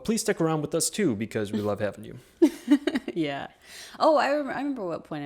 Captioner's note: chuckles